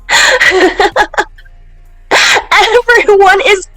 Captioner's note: S.V.G. laughing